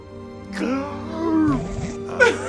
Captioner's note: inhale